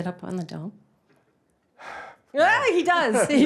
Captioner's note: sighs